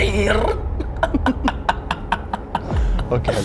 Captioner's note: laughs